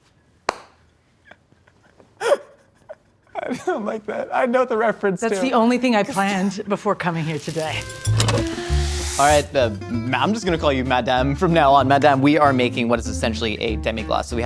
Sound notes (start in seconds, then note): 0.5 clapping; 7.1 sanding fizzing